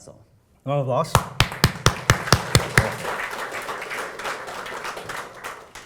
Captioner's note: applause